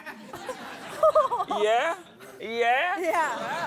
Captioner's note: laughter